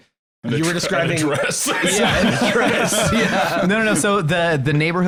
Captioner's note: laughing; laughs